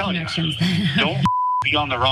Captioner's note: laugh